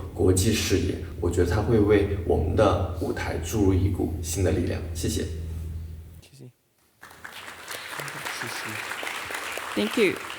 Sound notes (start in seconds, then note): 0.5 speaking Chinese continues; 7.0 audience applauding; 9.0 members speaking Chinese